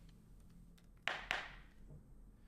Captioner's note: bang gavel